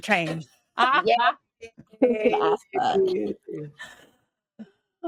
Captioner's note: cast members laughing